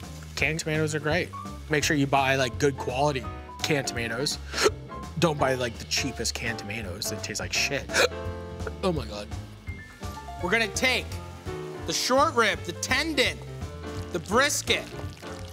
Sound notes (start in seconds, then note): 4.0 hiccups; 7.9 hiccups